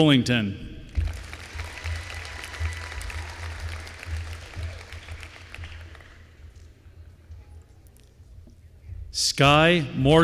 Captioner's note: applause